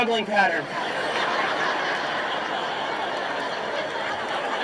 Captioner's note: audience laughing